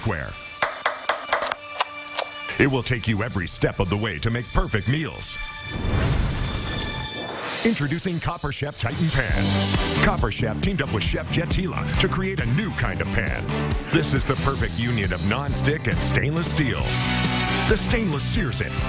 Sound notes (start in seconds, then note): 0.6 chopping; 5.7 whooshing